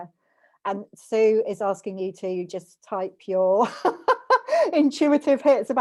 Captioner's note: laughs